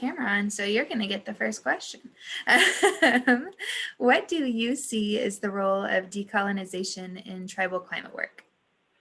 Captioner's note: laughing